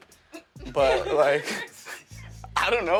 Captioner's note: laughter